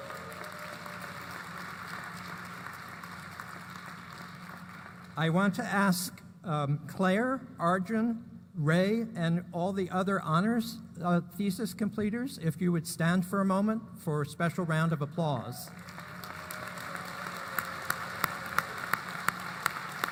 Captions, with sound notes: [APPLAUSE] I want to ask Claire, Arjun, Ray, and all the other honors thesis completors if you would stand for a moment for a special round of applause. [APPLAUSE]